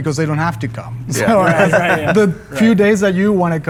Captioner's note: laughter